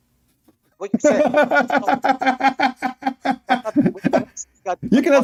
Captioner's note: Ketawa